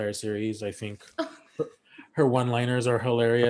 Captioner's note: Shannon giggles